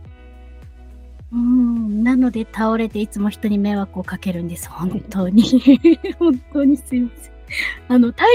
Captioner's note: laughs